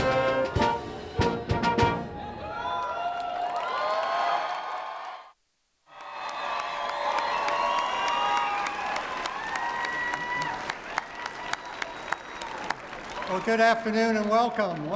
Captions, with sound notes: [CHEERING AND APPLAUSE] Good afternoon and welcome.